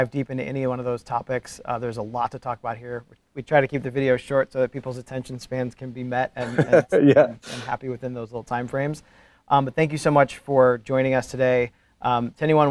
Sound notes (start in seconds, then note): 6.4 chuckles